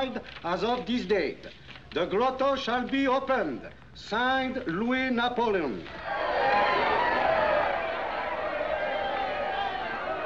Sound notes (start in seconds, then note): 5.9 cheering; 7.6 cheering Continues